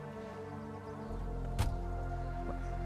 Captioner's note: door closes